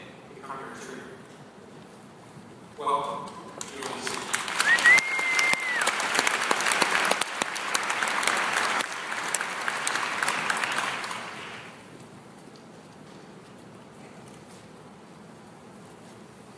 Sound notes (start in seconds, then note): 3.5 applause